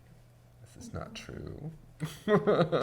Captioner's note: laughs